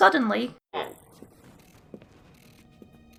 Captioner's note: door opens